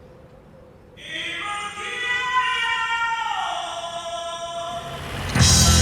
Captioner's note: musical cry